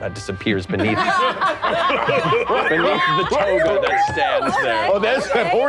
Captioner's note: all laughing